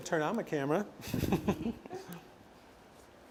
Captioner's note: laughs